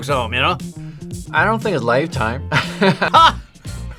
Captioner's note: laughs